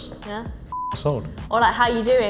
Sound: beep

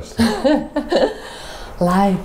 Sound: laughing

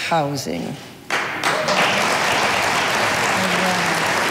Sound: audience applauding

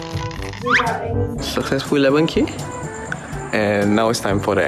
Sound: steps

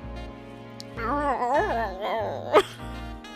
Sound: imitates doe death sound; laughter

